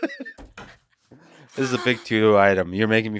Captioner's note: Lex laughs